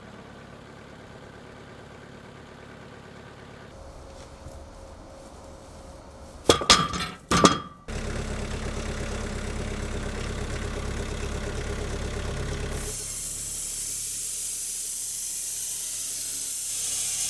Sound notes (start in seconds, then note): 7.9 engine revving; 13.0 electric saw screeching